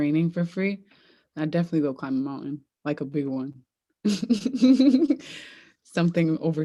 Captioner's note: laughs